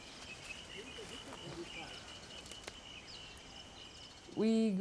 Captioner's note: birds chirping; people chattering